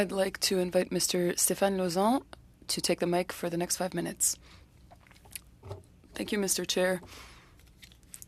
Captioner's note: speaking French